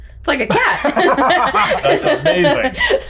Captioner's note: all laughing